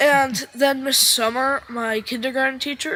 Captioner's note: audience cheering